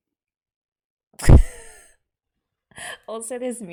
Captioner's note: laughs